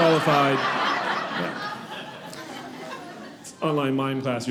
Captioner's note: audience laughing